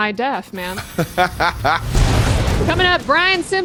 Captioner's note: laughing